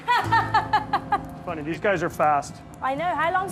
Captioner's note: laughs